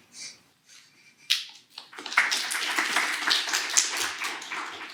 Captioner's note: applause